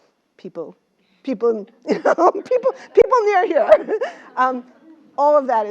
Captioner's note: laugh